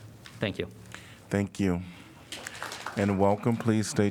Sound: applause

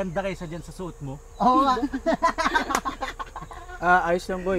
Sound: laughing

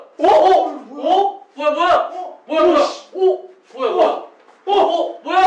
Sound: slip

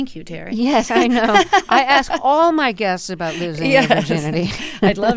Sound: laughter; laughter

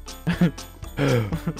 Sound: gasps

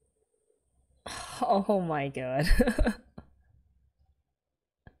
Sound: laughs

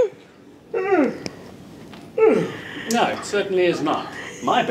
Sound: yawns

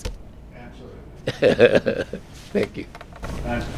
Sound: laugh

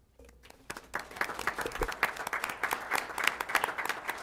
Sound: applause

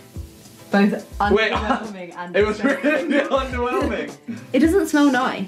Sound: laughs

